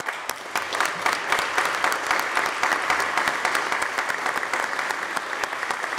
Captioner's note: applause